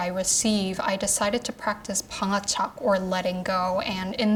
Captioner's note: speaking Korean